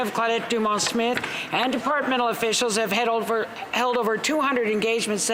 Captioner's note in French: voix de l'interprète